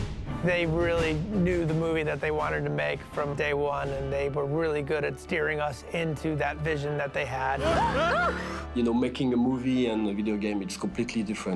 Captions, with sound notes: They really knew the movie that they wanted to make from day one, and they were really good at steering us into that vision that they had. [yelping] Making a movie and a video game, it's completely different.